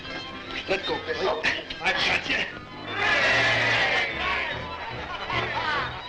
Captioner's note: crowd cheering